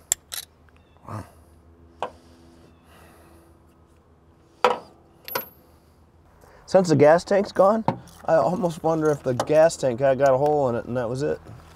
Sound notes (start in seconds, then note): 0.3 plug creaks; 4.6 metal clunks